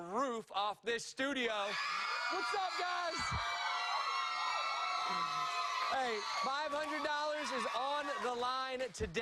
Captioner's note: cheers and applause